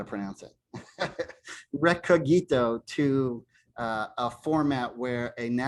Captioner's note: laughter